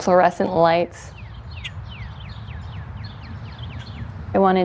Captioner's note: birds chirping